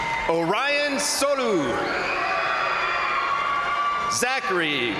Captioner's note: crowd applauding; crowd cheering